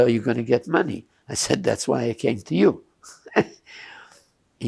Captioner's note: laughing